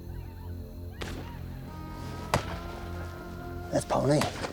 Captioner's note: distant gunfire, whooping